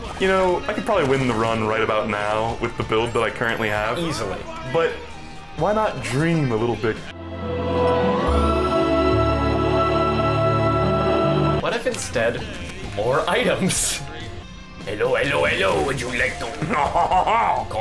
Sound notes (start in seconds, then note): 7.1 solemn music; 14.9 in a gaudy french accent